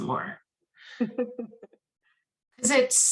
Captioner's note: laughs